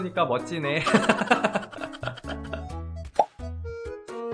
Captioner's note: laughs